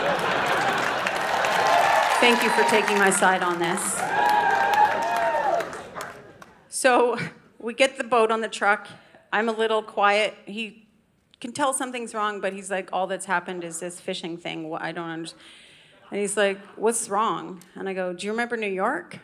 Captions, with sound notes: (Audience cheering) Thank you for taking my side on this. (Audience clapping) So we get the boat on the truck. I'm a little quiet. He can tell something's wrong, but he's like, all that's happened is this fishing thing. What I don't understand. And he's like, “What's wrong?” And I go, “Do you remember New York?”